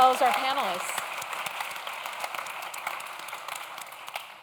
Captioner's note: audience claps